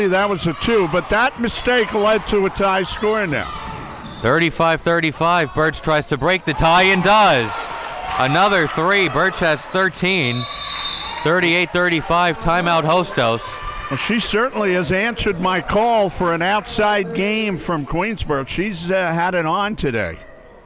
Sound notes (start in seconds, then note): 7.6 audience cheering; 10.1 whistle blows